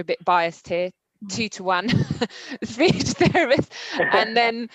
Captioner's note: laughs